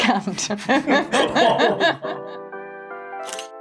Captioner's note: laughing; chuckling; upbeat music